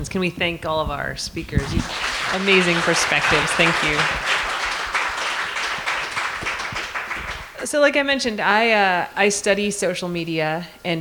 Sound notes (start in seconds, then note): 4.5 applause